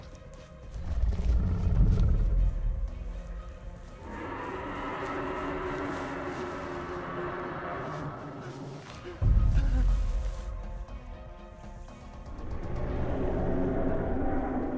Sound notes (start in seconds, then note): 0.2 climactic music; 4.4 dinosaur growls ferociously; 9.2 climactic music